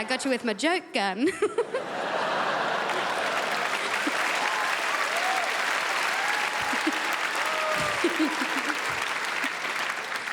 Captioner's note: crowd laughs